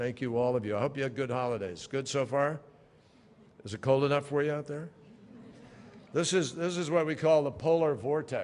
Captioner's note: laughter